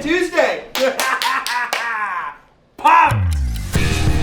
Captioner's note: laughing